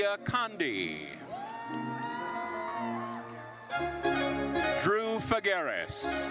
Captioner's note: attendees cheering